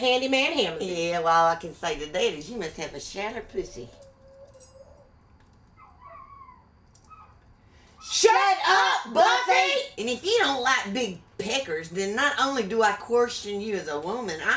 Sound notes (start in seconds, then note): 5.7 dog whining